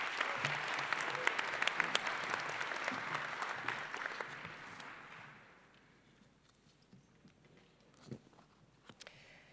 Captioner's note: applause